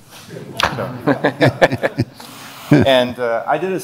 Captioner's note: laughter